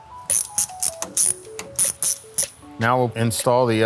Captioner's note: wrench cranking